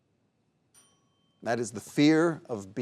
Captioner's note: bell dings